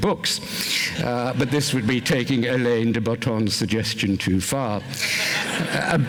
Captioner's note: laughter